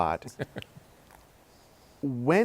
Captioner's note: laughs